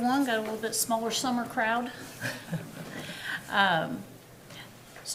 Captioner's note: chuckling